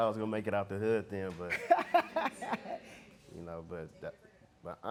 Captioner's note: laughing